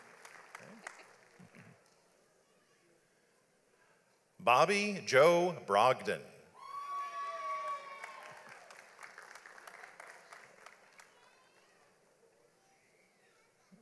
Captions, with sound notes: Bobby Joe Brogdon. (audience applauds)